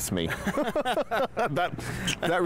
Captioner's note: laughter